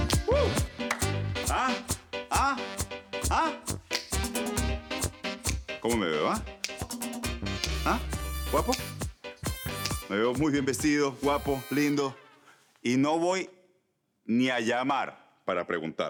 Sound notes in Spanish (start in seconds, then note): 0.1 Tararea; 1.5 Chasquido de dedos